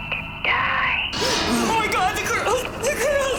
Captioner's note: gasps